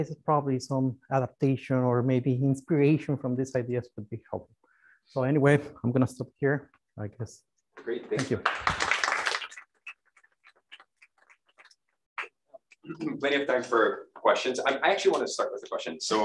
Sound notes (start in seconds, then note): 8.1 applause